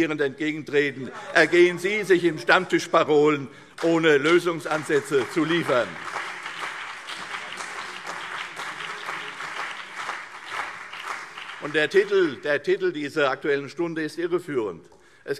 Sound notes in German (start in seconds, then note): 5.8 Beifall CDU und BÜNDNIS 90/DIE GRÜNEN